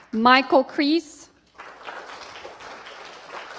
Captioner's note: applause